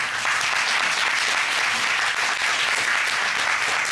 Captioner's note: applause